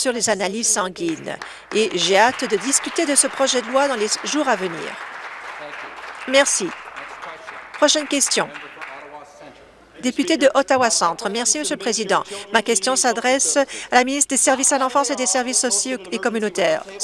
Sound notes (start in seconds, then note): 4.9 applause